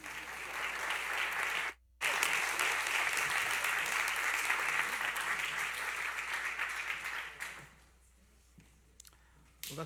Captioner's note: applause